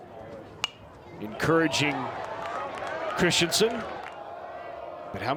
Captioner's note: bat dings